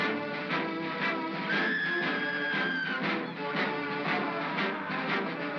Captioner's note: triumphant music; Bo Peep screams; triumphant music